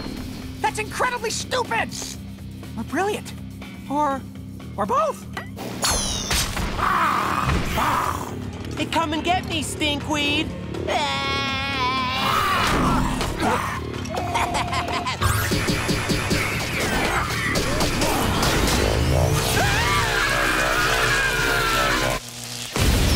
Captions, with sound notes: That's incredibly stupid, brilliant or... or both! [screeching] Hey come and get me stink weed! [yelling] [laughing] [screaming]